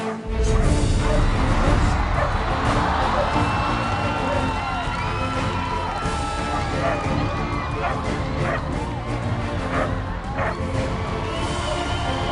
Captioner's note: crowd Cheers